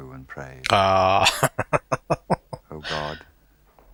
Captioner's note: laughing